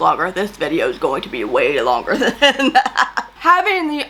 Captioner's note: laughs